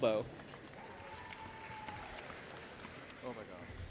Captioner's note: audience applauding and cheering